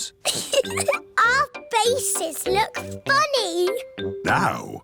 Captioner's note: giggles